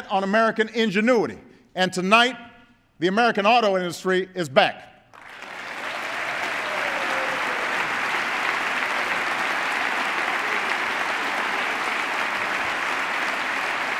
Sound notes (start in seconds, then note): 9.1 applause